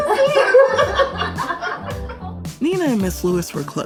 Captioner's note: laughter